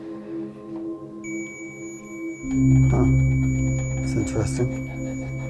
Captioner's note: electronic beeping